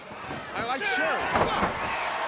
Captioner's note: crowd cheering